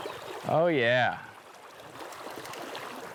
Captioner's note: water splashing